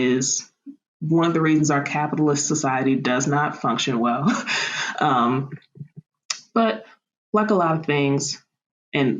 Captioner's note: laughter